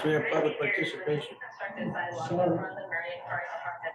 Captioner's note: digital voice recording plays in the background; voice recording continues